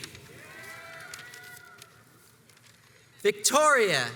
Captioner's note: crowds cheers and applauds